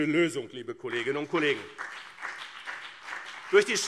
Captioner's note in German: Beifall BÜNDNIS 90/DIE GRÜNEN und CDU